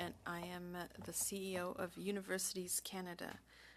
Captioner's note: speaking French